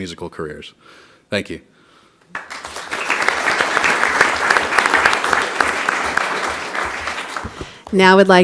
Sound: applause

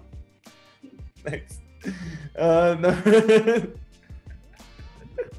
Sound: laughs; laughs

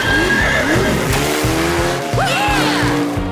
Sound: water skipper whinnying

